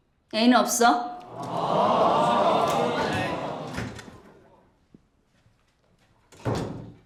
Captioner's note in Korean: 야유 소리